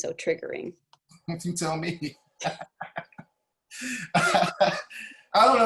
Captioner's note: laughing